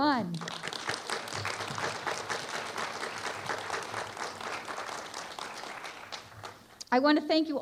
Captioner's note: applause